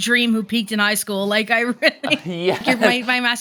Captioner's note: laughs